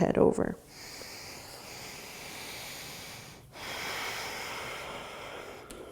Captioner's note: deep breathing